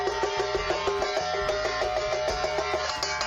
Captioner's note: clank